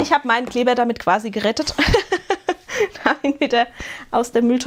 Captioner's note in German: gelächter